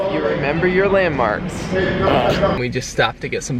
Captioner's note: snorts